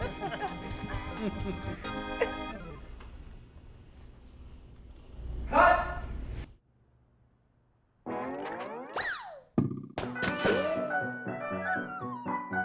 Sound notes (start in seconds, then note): 0.0 they laugh some more; 0.0 the laughter dies down; 8.1 cartoon noises; 8.8 slide whistle; 9.6 lively neo jazz plays; 10.0 three gunshots; 11.4 lively neo jazz plays; 11.4 slide whistle; 12.4 lively neo jazz plays